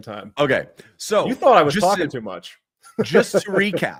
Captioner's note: laughter